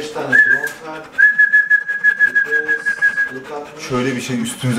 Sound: whistle

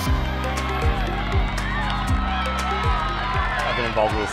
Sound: bright pulsating music; audience cheers

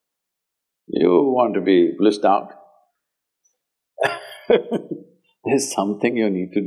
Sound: laughs

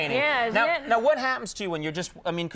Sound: chuckles; audience laughs

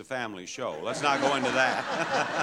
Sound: audience laughs

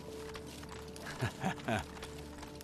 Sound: laughs

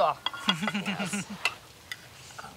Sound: laughing

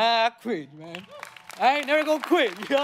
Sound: audience applauding

